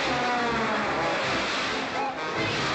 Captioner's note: splash